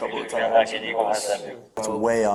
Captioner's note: radio chatter